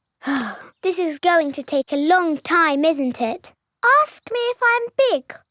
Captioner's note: sighs